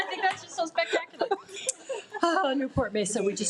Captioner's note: attendees laugh